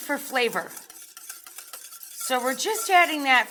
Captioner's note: mixture whisking